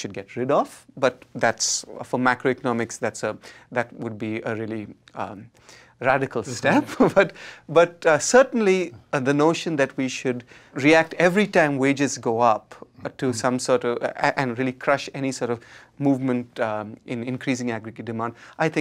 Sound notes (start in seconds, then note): 7.2 laughs